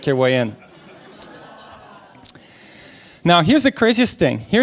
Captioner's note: audience laughing